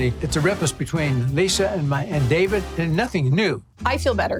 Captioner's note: none